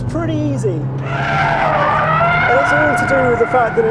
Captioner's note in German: quietschende Reifen